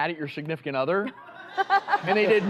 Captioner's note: laughs